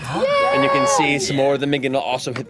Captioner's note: gasps